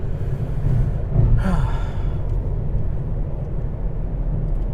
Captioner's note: exhales